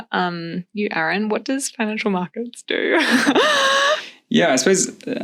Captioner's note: laughs